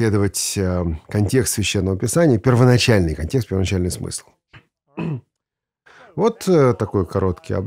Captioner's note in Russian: прочищает горло